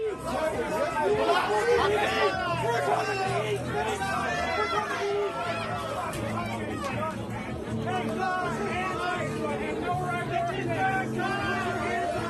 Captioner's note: crowd noise